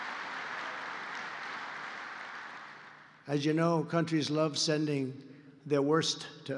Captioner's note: applause